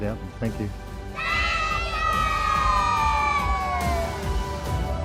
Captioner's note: cheering